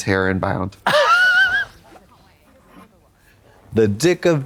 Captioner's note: Katya titters